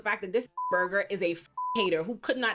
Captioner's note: beep